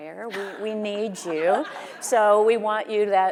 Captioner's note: audience laughing